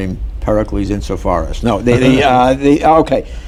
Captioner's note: laughter